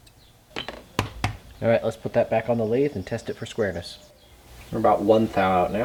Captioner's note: tap tap